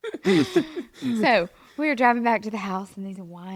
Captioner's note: laughs